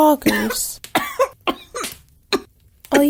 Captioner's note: coughs, splutters